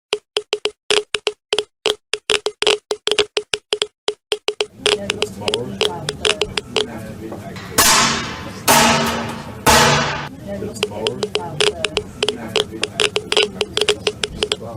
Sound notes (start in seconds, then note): 0.1 geiger counter clicking; 7.5 metal banging; 10.7 geiger counter clicking